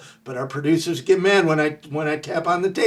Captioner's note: none